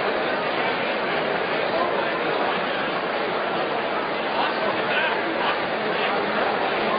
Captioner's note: genral chatter; general chatter